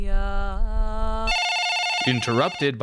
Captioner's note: phone ringing